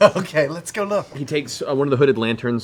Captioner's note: laughing